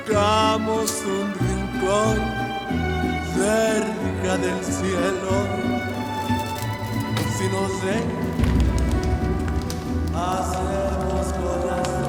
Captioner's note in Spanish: Sonido al quemar la foto